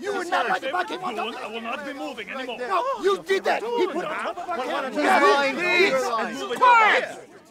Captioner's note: arguing continues